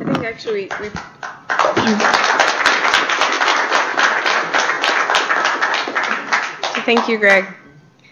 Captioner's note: applause